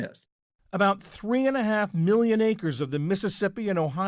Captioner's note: voice-over